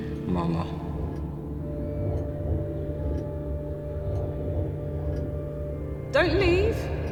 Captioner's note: brooding music; clock ticking